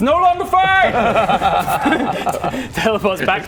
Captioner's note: unfazed laughter